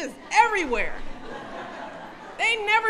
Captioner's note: laughter